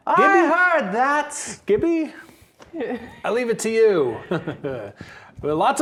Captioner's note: chuckles